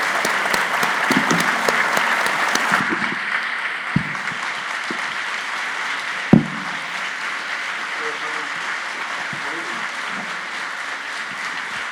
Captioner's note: applause